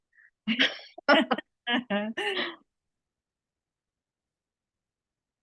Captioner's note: laughing